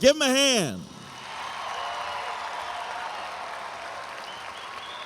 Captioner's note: audience applauds and cheers